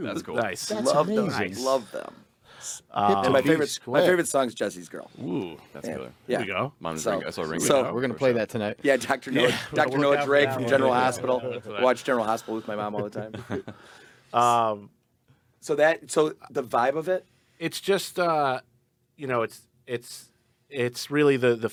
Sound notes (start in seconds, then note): 0.7 group chattering; 6.3 group chattering; 11.0 group chattering; 14.2 group laughing